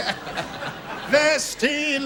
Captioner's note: laughter